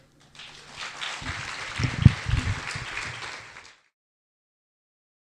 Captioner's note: audience applause